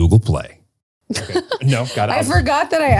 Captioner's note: laughs